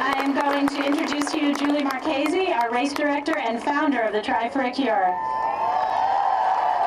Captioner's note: applause